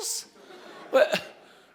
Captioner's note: laughter